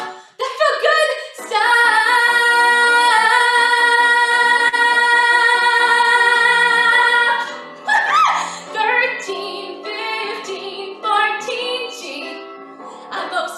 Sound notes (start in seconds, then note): 7.9 laughing